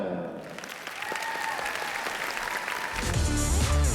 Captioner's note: applause